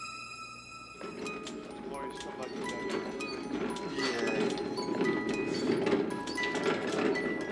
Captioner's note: tinkling music; murmuring